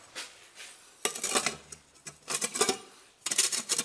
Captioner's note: scratching noises